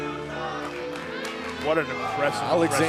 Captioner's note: crowd cheering